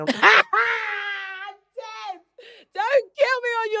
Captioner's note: London laughs